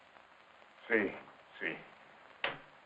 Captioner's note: in Spanish